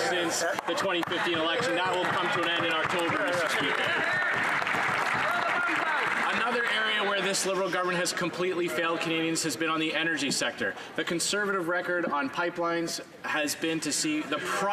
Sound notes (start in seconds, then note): 7.2 some Applause